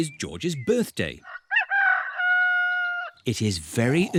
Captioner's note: roster crows